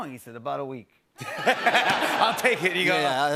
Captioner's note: laughter